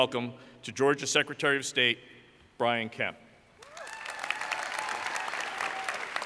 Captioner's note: applause